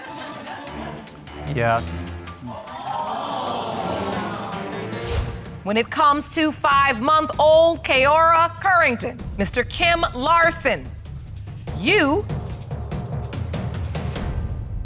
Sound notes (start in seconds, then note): 2.4 audience exclaim